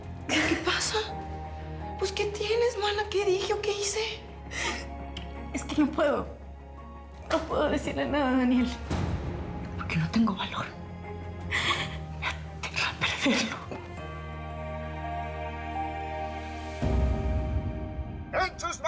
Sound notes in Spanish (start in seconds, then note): 5.0 solloza